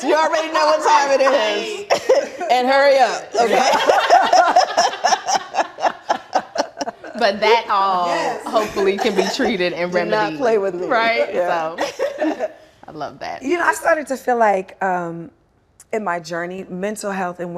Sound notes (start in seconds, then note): 5.3 laughter